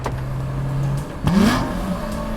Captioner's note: throttle blip